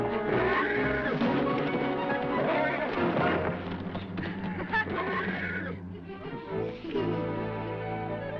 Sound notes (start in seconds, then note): 0.1 horse whinnying; 3.8 laughing